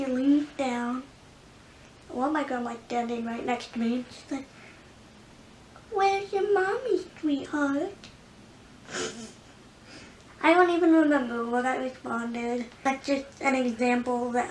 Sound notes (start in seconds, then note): 8.9 chuckles